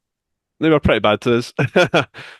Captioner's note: chuckles